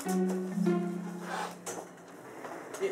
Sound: sniffs

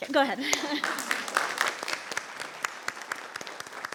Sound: people clapping

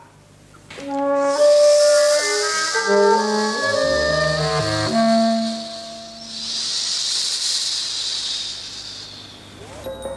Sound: hisses

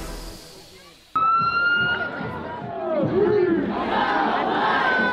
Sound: upbeat music fades out; sirens sound; crowds shout

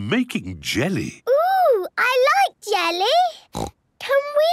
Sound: snorts

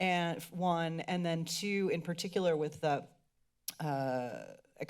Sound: clicks tongue

